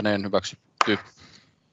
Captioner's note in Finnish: nuijan kopautus